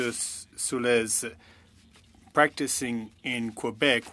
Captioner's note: speaking French